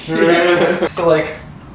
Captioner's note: laughs